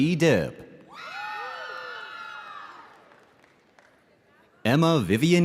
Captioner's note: audience cheering